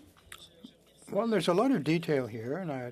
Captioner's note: speaking French